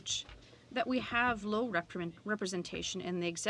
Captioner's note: speaking french